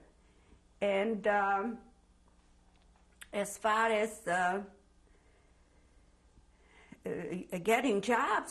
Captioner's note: pauses for 3 seconds